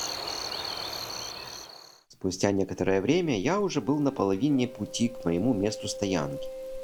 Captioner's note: birds singing